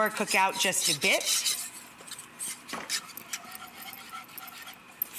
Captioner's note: whish stirring